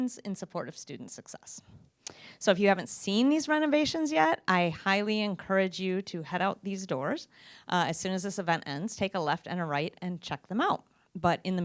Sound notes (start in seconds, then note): none